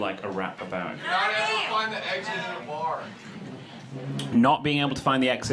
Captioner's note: crowd talking